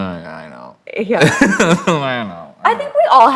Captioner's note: laughs